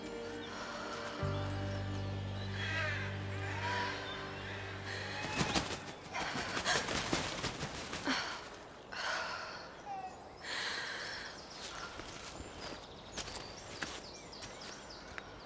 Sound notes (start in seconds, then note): 2.4 birds cawing; 4.8 wings flapping